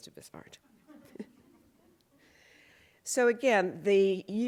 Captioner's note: laughter